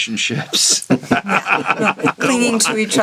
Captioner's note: all laughing